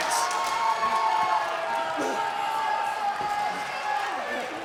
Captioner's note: crowd cheering